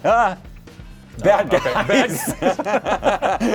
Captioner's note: laughter